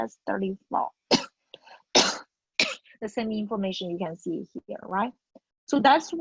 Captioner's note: cough